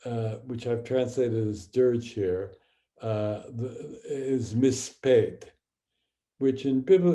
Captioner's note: speaking hebrew; speaking hebrew